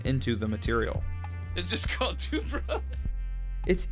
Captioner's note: laughing